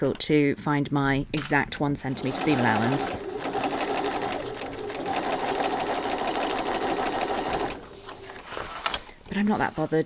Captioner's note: sewing continues